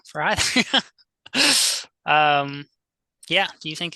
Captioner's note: host laughing